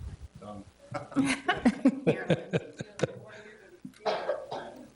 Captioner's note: everybody laughing